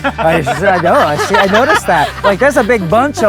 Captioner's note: family laughing